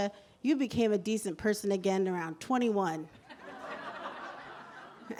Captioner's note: laughter